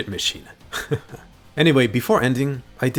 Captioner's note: laughs